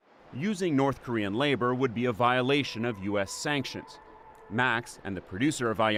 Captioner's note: voice-over